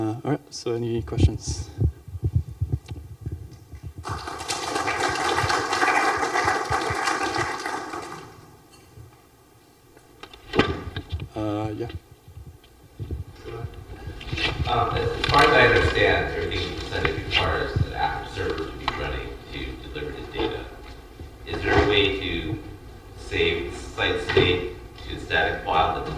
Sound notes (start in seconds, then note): 4.0 applause